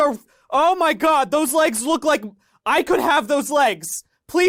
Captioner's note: shouting